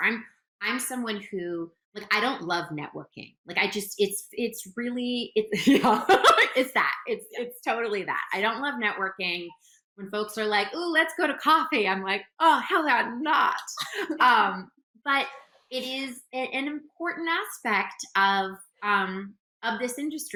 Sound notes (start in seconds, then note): 5.6 laughs